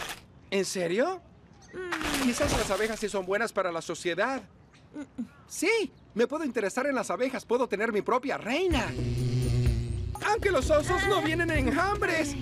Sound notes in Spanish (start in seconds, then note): 8.8 abejas zumbando